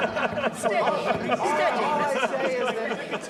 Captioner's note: all talking and laughing